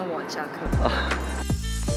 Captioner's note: laughing so hard